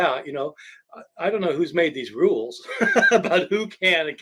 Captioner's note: laughing